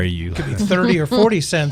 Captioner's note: laughing